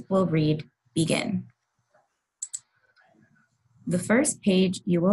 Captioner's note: mouse click